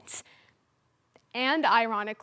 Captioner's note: silence